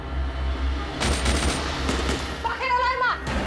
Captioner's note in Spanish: Disparos